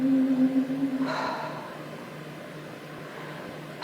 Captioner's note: sighs